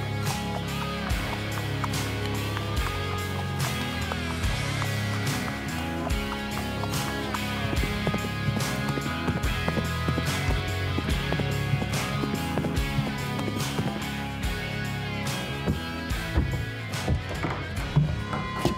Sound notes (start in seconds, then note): 8.0 horse hooves galloping; 15.0 footsteps thudding